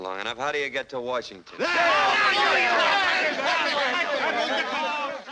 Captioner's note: cheering; screaming